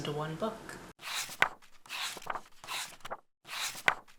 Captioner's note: pages turning